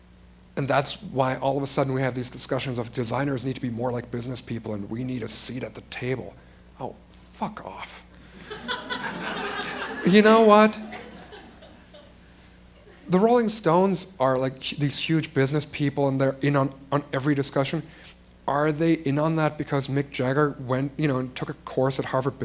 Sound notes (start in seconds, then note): 8.4 laughter